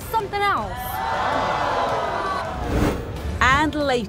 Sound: audience jeering

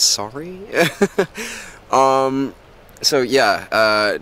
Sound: tourist chuckles

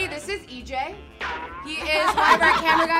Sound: throwing sound effect

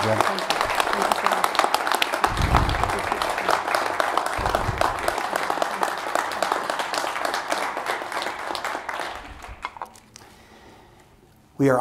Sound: applause

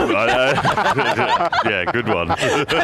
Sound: laughing

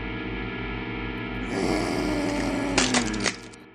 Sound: doggo growling

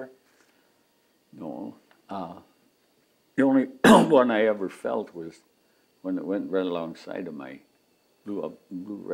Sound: coughs

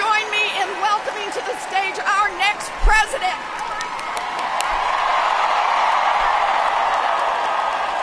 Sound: applause

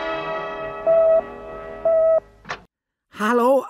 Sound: tone beeping

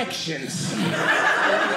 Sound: audience laughing

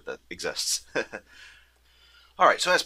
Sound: laughs

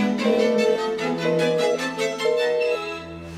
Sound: phone busy tone

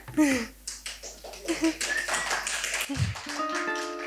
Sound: audience clapping; laughs; harp playing

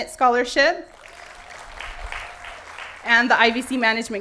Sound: applause

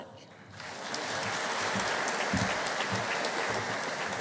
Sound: audience applauding

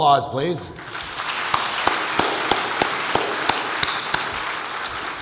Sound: audience applauds

